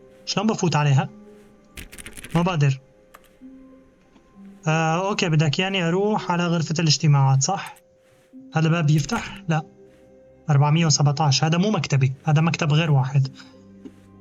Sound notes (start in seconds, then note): 0.0 beeping; 1.8 clock ticking